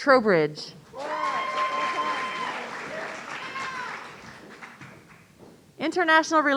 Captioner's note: audience cheering